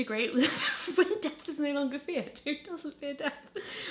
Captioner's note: laughing